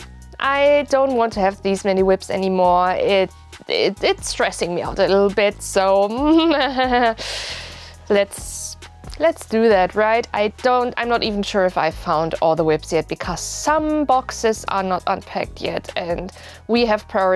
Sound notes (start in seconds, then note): 6.4 nervous laughter